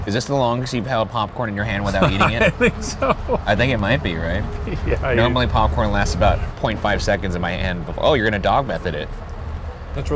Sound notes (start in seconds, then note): 1.8 laughing